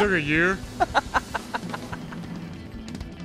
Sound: Turac laughs

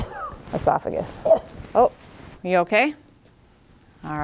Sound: patient coughs

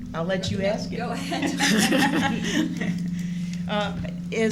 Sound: laughter

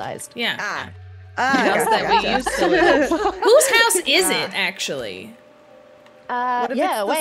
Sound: laugh

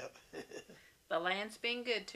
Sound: laughs

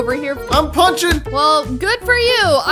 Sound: punch sounds play

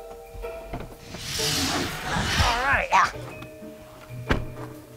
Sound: growling

